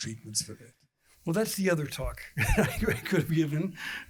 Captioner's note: laughter